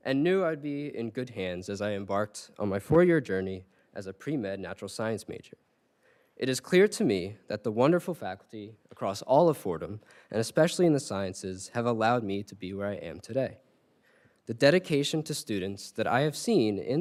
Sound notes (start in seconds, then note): none